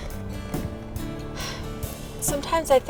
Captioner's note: women sighs